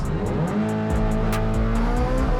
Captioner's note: engine revving